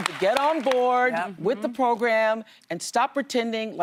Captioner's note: applause